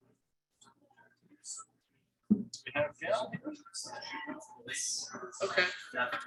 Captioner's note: people chattering indistinctly